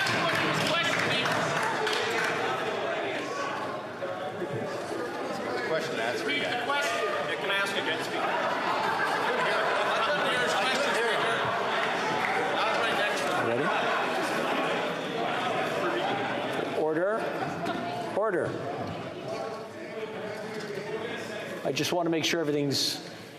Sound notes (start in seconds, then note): 2.5 yelling